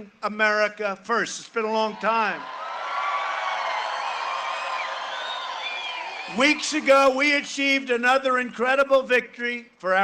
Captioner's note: cheering and applause